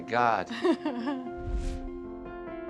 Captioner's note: laughs